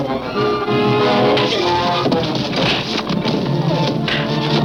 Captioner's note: crashing noises